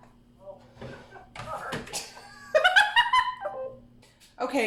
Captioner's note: laughs